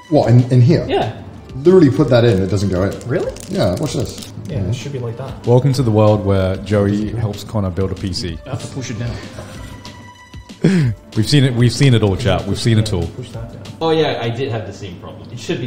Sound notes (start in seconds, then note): 10.6 chuckles